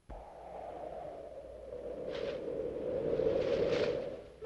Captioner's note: wind whistling